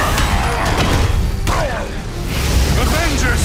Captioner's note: thudding; grunts